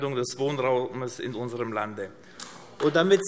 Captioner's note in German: Beifall AfD